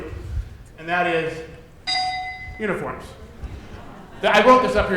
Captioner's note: dinging